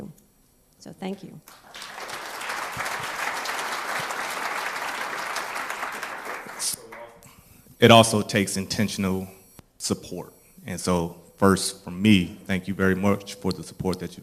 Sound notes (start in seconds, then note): 4.5 applause